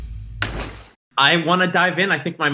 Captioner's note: water splashes